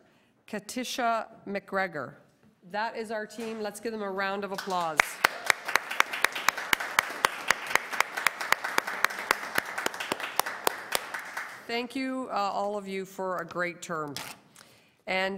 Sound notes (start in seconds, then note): 8.3 applause